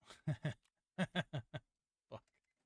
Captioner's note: laughing